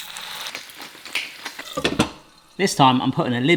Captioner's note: patty sizzles; grinder crackling